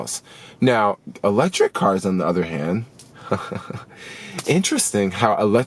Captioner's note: laughs